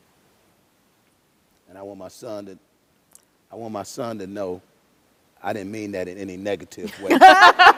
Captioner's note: laughter